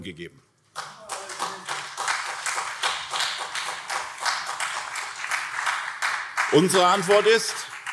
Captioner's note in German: Beifall SPD und CDU